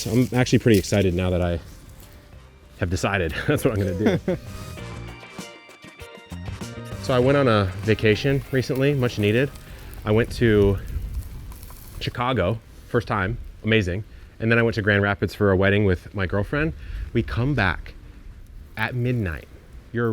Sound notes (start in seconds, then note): 3.2 laughing; 5.4 funky upbeat music